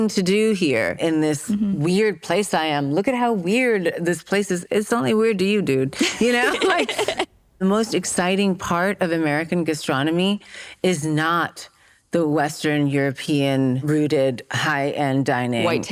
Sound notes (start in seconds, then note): 6.0 laughs